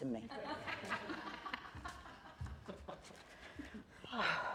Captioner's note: laughter